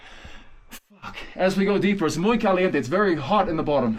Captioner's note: foreign language